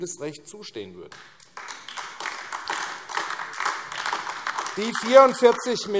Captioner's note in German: Beifall AfD